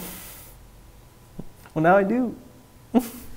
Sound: laughing

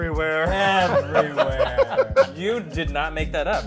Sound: laughter

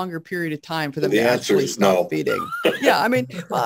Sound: laughing

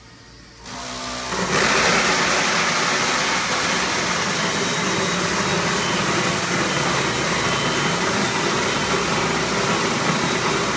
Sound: machine running

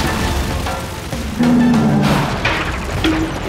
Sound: grunting

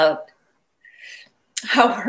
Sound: fighting back tears

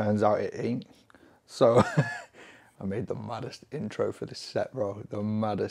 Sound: laughs

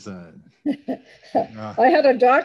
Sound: laughs

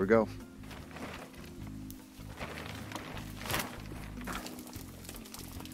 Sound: plastic crinkling

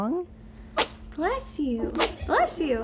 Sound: sneeze

